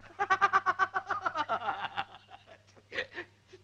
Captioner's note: laughs